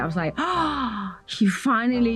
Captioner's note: gasps